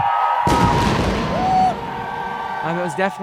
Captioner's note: cheering; cannon blast